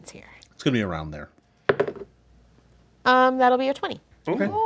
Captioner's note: dice roll